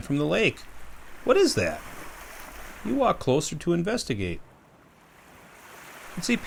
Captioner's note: waves